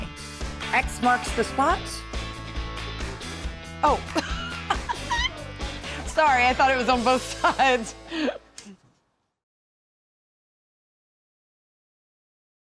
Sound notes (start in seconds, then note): 4.1 giggling